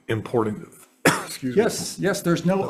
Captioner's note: coughs